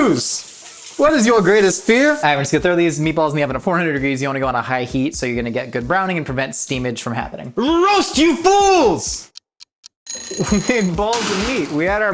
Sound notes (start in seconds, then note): 10.0 alarm dings